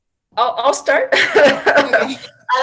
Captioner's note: laughs